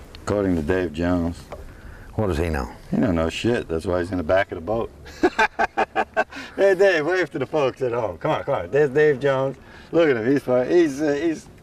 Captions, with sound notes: according to Dave Jones what does he know. He doesn't know shit That's why nhe is in the back of the boat [Laughter] hey Dave wave to the folks at home come on there's Dave Jones look at him..he's..